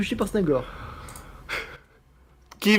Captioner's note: laugh